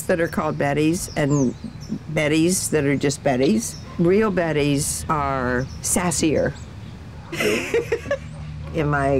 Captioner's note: laugh